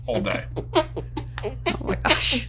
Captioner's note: hands squeaking repeatedly